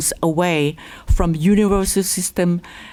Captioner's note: none